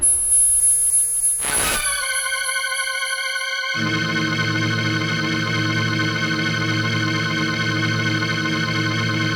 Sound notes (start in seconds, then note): 0.1 tense ominous music; 1.4 static crackling; 1.8 ominous organ music